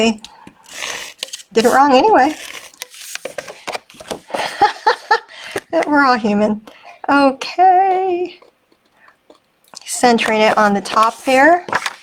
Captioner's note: laughing